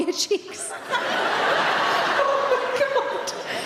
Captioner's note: audience laughing